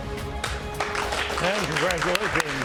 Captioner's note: upbeat music; audience applauding